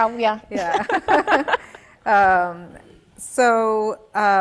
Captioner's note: laughing